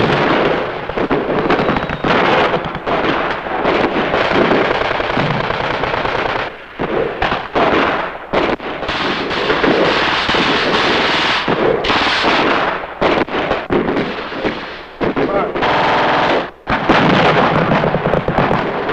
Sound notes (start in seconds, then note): 0.1 explosions booming; 7.4 guns firing